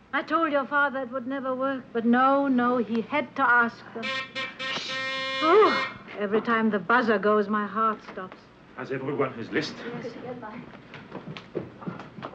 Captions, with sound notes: I told your father it would never work, but no, no, he had to ask them. (buzzer buzzing) - Shh. - Oh! Every time the buzzer goes, my heart stops. - Has everyone his list? - Yes, here's mine.